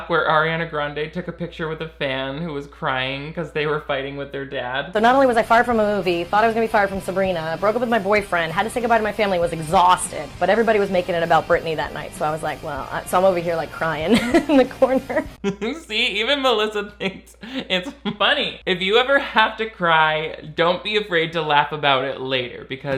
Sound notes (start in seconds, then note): 15.3 chuckles; 15.4 laughs